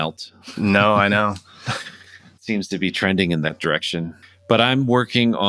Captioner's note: laughter